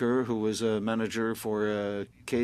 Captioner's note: speaking French